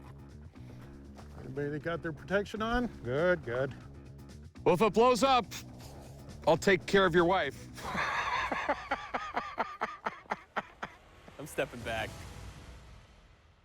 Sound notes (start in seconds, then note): 7.7 laughs